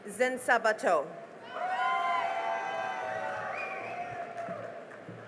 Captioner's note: cheering and applause